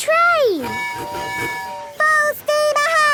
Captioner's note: tooting